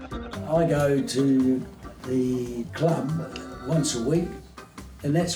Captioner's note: all laugh